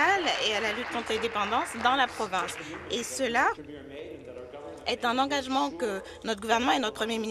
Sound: applause

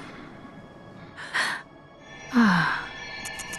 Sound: gasping

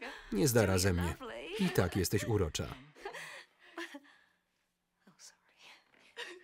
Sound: both laugh loudly

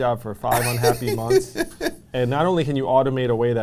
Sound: laughs

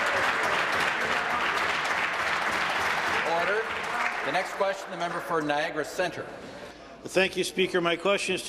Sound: applause

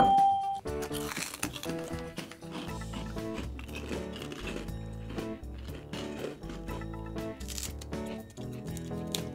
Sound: crackers crunching

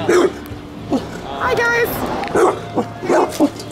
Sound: barks

